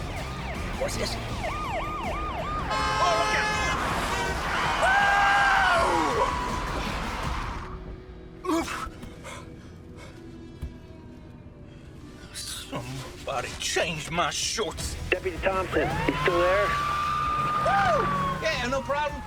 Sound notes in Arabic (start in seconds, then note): 0.0 عويل صفارات الإنذار; 2.6 صوت بوق صندوق السيارة; 2.8 صوت الإطارات; 9.0 يتنفس بصعوبة; 15.4 صافرات الإنذار